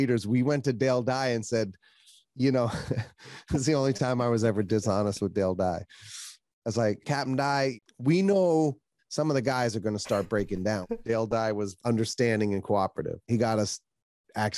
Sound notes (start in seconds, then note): 2.6 chuckles; 10.1 laughs